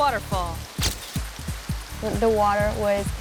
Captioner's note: camera clicks